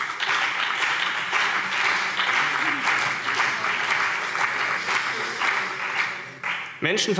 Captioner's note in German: Beifall CDU und BÜNDNIS 90/DIE GRÜNEN